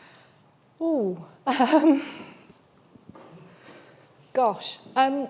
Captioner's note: chuckling nervously